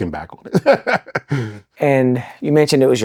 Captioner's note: both laughing